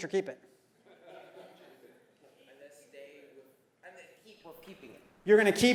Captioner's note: laugh